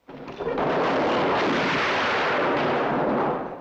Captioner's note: gun fires